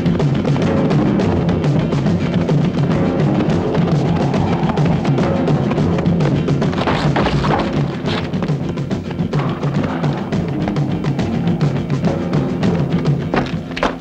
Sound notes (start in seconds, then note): 5.9 thuds